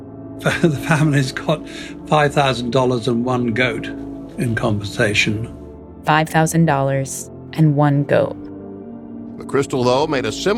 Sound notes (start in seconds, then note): 8.1 soundbite of archived recording